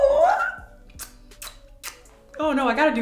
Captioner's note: kisses